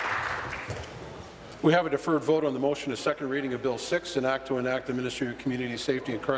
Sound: applause

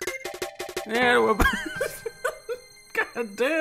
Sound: laughs

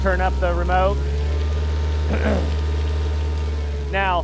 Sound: motor revving

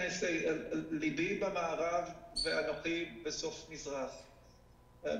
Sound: speaking foreign language

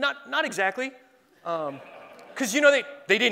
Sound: laughing

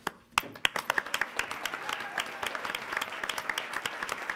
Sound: applause

